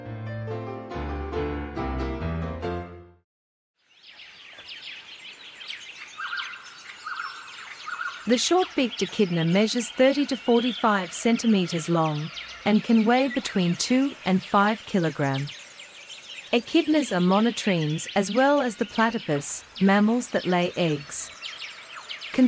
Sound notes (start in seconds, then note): 0.0 piano music background; 3.7 birds chirping